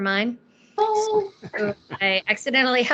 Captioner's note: laughing